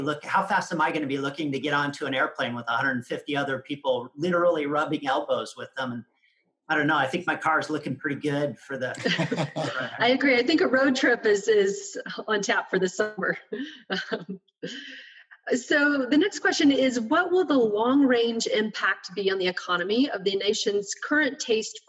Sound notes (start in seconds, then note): 8.0 laughing